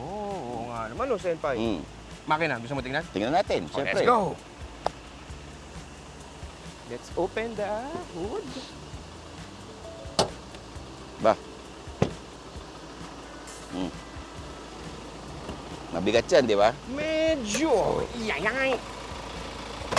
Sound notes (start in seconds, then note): 10.1 hood pops; 12.0 door thuds